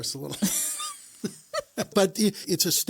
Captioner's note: both laugh